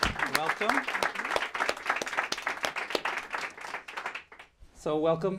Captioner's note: applause